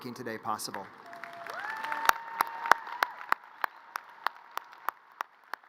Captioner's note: audience cheers and applause